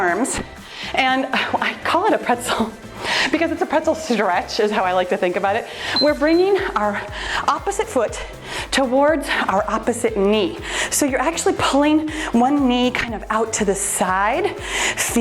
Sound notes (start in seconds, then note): 5.9 timer beeps